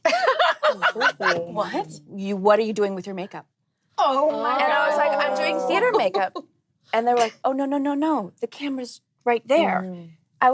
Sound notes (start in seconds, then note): 0.1 laughing; 4.1 groaning